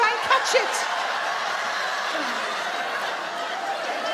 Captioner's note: audience laugh